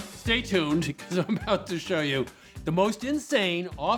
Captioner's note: chuckling